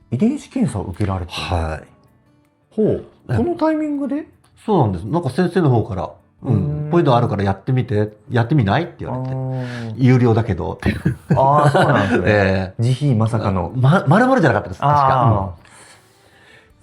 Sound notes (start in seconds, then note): 10.8 laughs